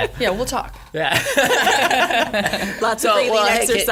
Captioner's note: laughing